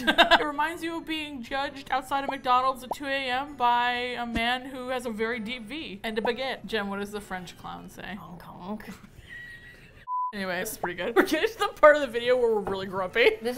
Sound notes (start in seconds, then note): 9.1 laughing; 9.1 laughs